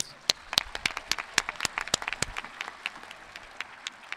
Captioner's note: audience clapping